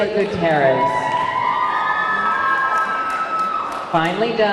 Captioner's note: audience clamoring